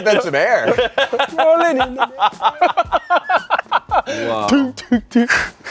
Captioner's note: everyone laughs